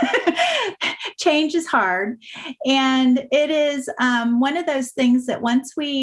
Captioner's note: laugh